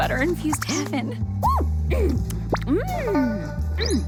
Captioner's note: moaning and chewing